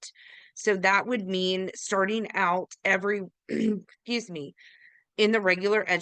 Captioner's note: clears throat